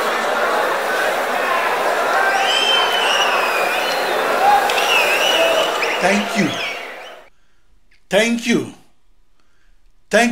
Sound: wild applause and cheering for 22 seconds

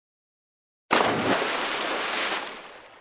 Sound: splash

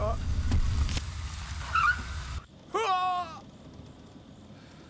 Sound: brakes screech

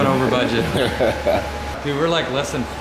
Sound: laughing

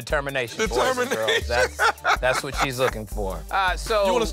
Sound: laughs

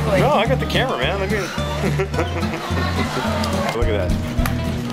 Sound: laughs

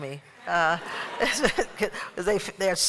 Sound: laughter

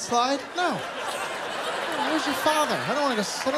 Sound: laughter

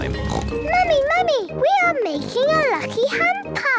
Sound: snorts

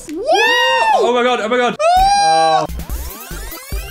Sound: screaming; fast forward sound effect

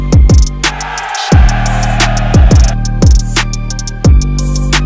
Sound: crowd cheering

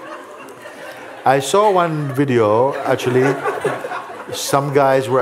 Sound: laughter

